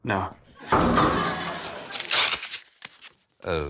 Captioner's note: oil drum clangs